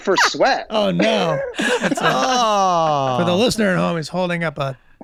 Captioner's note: Glenn laughing